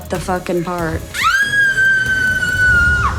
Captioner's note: shrieks excitedly